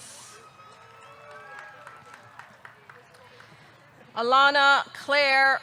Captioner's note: audience cheering; audience clapping